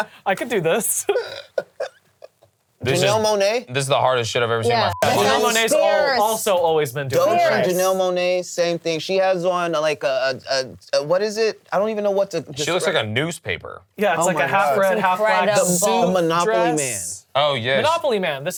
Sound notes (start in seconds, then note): 0.0 laughs; 4.7 beep